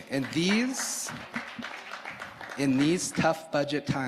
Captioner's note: audience applauding